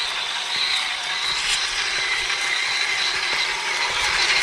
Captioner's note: engine roaring